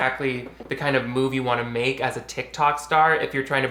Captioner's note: none